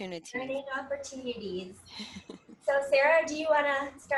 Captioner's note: laughing